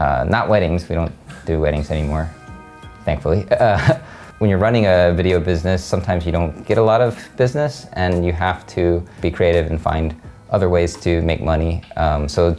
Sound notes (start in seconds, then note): 3.6 laughs